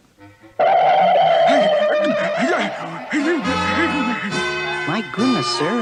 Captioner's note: Adam West Gasps